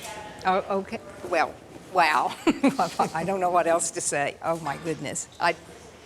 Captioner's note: laughing